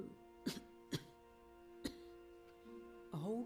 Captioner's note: coughs